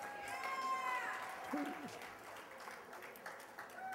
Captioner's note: cheers and applause